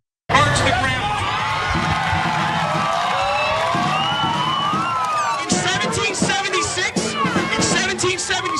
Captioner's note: applause